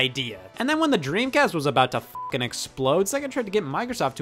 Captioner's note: beep